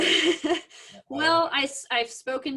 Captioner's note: laughs